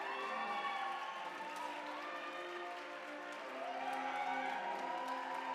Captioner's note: audience cheering and applauding